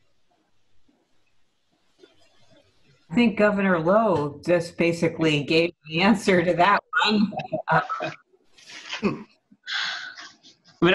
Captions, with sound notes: I think Governor Lowe just basically gave the answer to that one. [CHUCKLING]